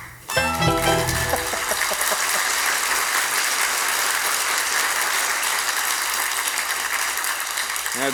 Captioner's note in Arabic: توقف الموسيقى. تصفيق